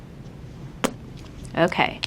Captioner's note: lips smacking